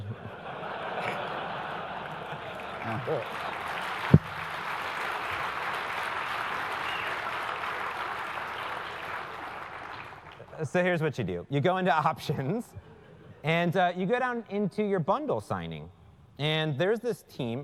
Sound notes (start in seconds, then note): 0.0 laugh; 1.3 applause